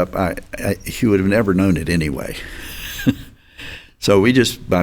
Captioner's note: chuckles